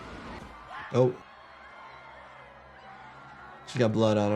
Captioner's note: victim screaming